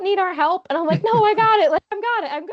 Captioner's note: chuckling